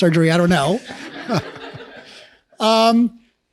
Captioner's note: laughs